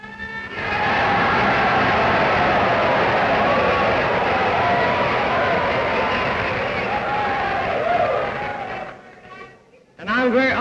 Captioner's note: cheers, applause